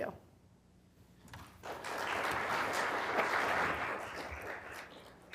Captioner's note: applause